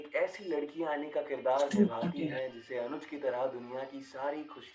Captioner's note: radio